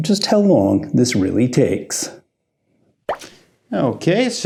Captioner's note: pop sound